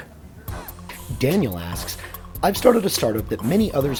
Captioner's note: voiceover